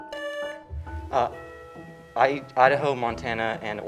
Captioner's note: buzzer sounding